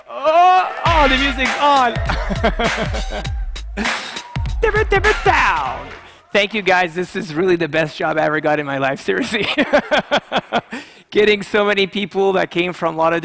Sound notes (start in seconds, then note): 4.5 imitates record scratching